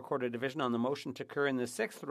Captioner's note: speaking French